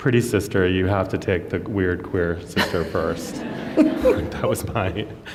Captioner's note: laughter